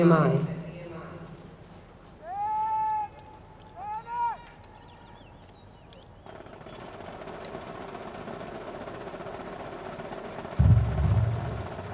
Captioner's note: shouted commands and drums